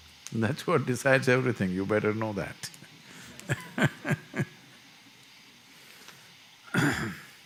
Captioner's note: laughs